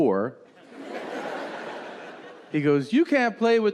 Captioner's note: audience laughing